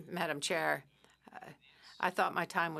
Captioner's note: speaking French